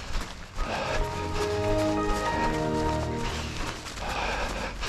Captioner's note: Windows XP startup sound